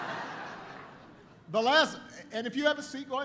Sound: laughter

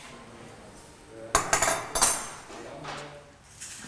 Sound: metal clanking

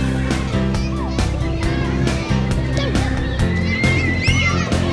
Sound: children playing; upbeat music

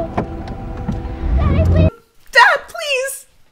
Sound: car engine revving

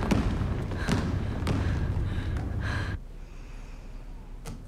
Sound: heavy breathing

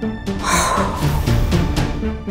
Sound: exhales

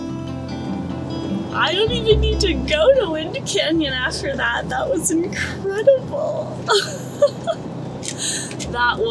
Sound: laughs

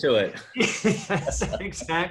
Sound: laughs

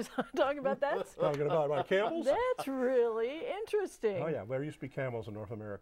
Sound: laughing

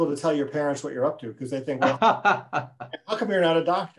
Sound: laughing

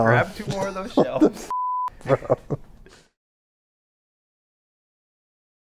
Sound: beep

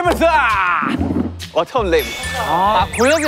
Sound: ding dong

